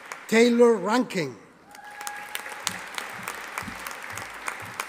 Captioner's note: audience applauding